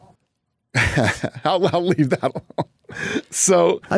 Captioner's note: laughs